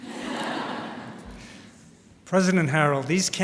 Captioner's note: laughter